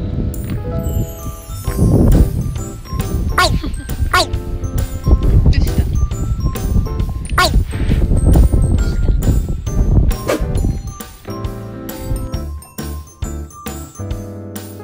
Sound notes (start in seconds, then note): 0.9 strong wind sound